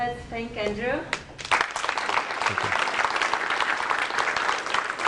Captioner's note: applause